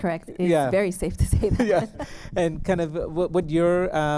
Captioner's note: laughter